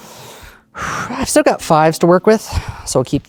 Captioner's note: exhales